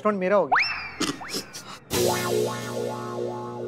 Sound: chuckling

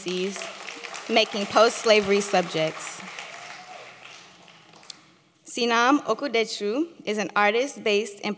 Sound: applause

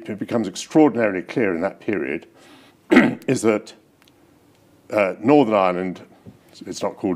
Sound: clears throat

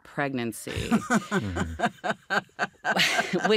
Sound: laughs

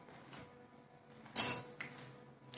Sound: broken glass

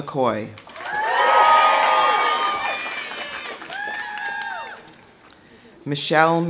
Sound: audience applauding; audience cheering

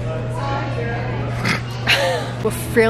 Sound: laughs

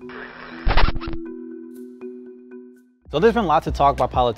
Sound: record scratches

